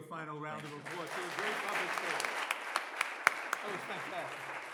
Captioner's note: audience applauds